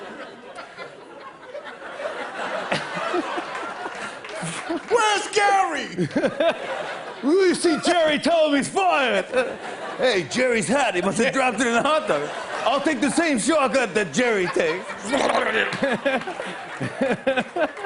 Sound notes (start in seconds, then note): 0.0 laughter; 2.6 laughs; 15.3 laughter; 17.6 laughs